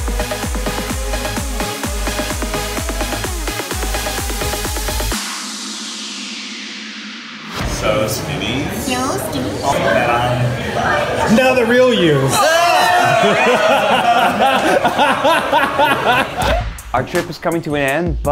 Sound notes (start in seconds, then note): 12.6 everyone shouts; 12.8 laughs